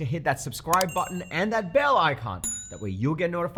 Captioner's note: bell ringing; bell chiming